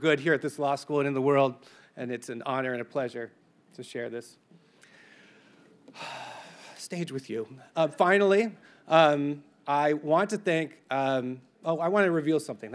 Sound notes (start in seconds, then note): 5.9 sighs